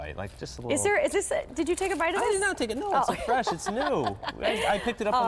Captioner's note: laughter